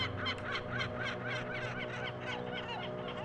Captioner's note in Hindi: हंसी